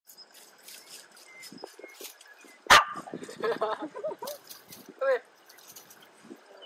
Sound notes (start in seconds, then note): 2.6 dog barking; 3.1 people laughing